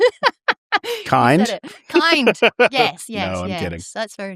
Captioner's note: laughter